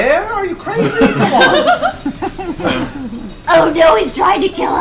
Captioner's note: all laugh